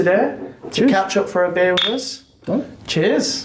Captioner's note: bottles clink